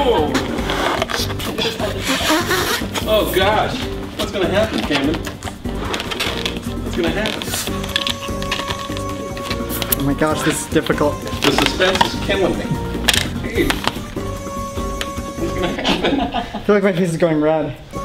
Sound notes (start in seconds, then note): 14.2 voice shaking; 15.5 laughter